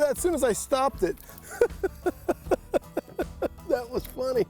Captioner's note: chuckles